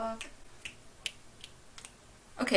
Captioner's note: snaps